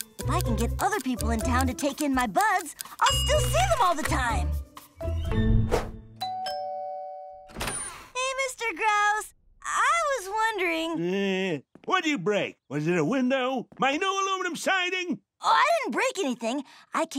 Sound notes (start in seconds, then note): 6.2 doorbell ringing